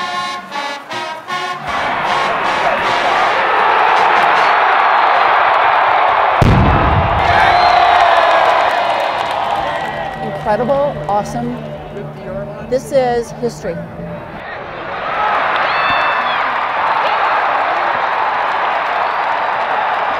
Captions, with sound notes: (marching band music) (crowd roaring) (thundering) (crowd roaring) - Incredible, awesome. This is history. (crowd roaring)